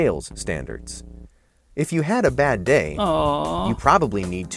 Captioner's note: person moaning